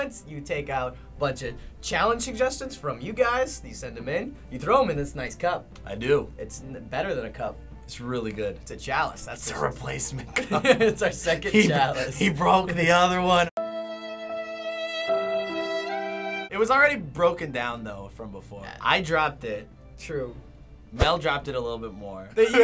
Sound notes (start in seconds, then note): 10.3 laughs; 13.6 depressing music